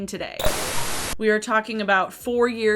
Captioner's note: static crackling